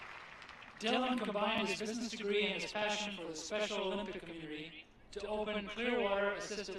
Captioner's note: applause